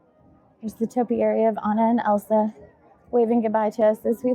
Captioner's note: crowd chattering